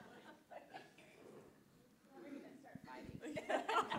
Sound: laughter

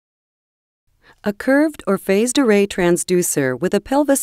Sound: voiceover

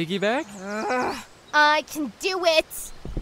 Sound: growls

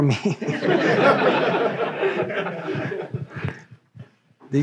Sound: audience laughing

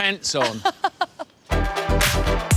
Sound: laughs; energetic music

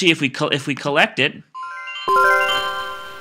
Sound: computer chimes

